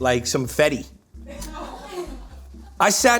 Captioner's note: laughing